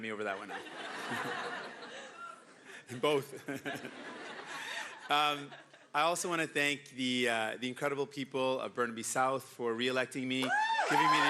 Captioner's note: laughter; cheering and Applause